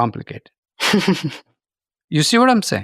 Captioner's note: chuckles